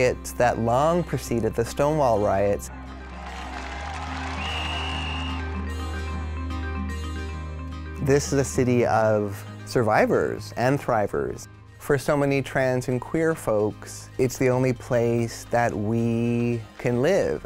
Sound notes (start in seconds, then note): 2.8 crowd cheers and whistles